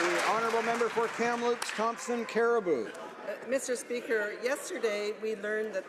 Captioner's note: some Applause